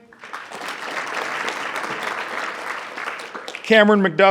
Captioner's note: audience clapping